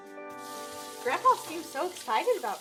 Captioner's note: water splashing